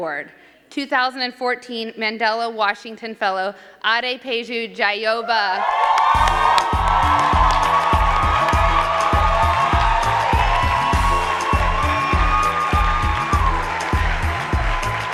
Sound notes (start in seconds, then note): 5.5 crowd cheering; 6.1 upbeat instrumental music